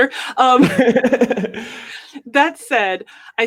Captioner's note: laughs